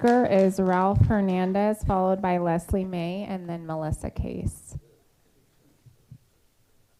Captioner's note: applause